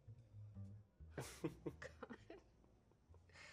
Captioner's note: chuckles